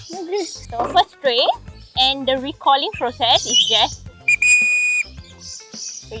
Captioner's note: blowing the whistle